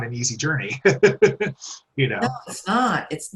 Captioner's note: laughs